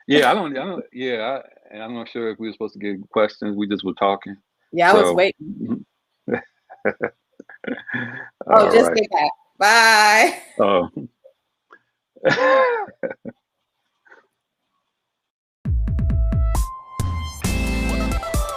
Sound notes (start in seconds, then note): 6.2 laughing; 12.2 laughing; 17.0 upbeat music